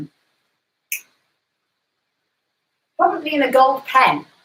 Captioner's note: finger snaps